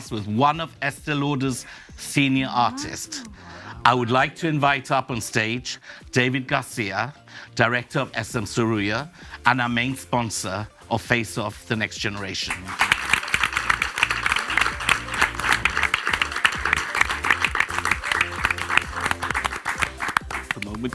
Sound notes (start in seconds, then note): 12.4 audience applauds